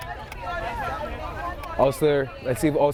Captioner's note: players shouting